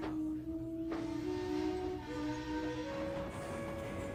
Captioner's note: adam whistles